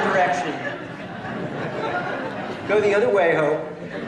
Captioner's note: laughter